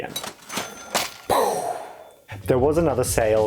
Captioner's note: cash register sound; mind blown sound